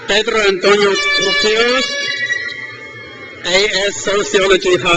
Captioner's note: crowd cheers